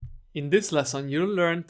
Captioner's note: voiceover